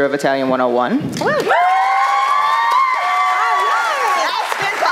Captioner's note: applause